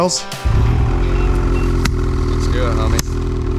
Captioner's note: snowmobile burbling